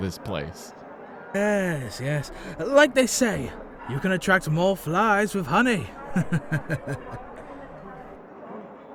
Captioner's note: friendly chuckle